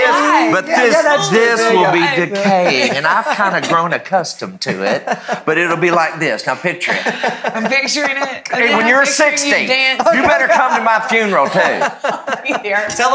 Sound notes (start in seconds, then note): 6.8 laughing; 9.8 laughs